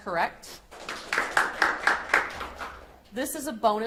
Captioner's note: audience applauds